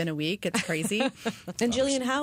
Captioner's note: laughter